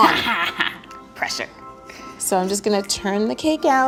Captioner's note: laughing